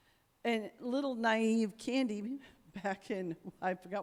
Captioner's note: chuckles